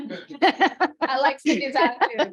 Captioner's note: laughter